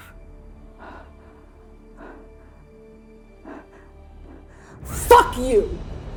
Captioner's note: staggered breathing